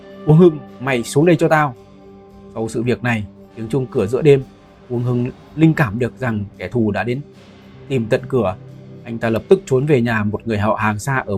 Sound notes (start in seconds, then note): 3.4 the doorbell ringing in the middle of the night